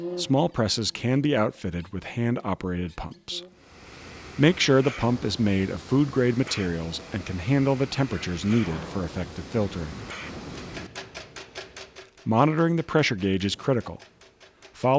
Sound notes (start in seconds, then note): 10.0 gauge rattles